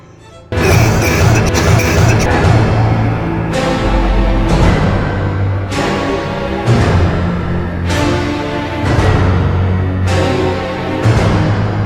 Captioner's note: coughs dramatically